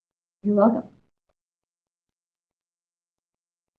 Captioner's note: silence